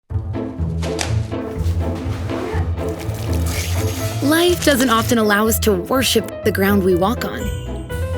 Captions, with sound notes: [Sound of food dropping to floor] [Sound of kids running through house] [Water splashing] [Dog shaking off water] Life doesn't often allow us to worship the ground we walk on.